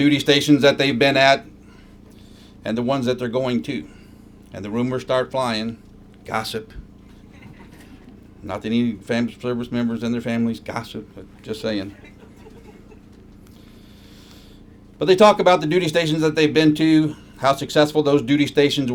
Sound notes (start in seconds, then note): 11.8 laughter